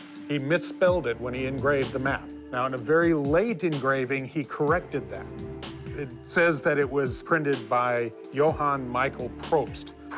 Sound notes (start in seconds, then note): none